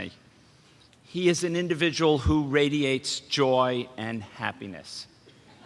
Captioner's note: laughter